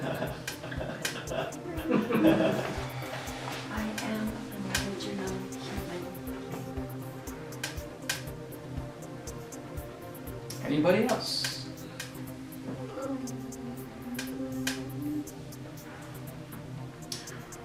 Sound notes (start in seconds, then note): 1.7 laughter